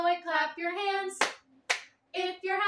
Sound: clap

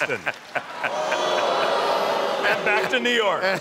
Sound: crowd booing

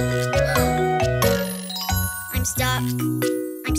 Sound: gasping

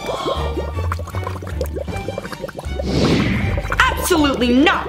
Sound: drink bubbles

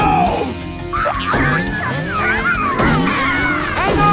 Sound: thumping; screaming

